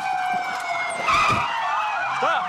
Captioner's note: brakes squealing